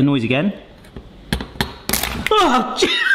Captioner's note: egg cracks; loudly gasps